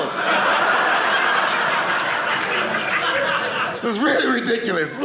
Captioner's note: audience laughing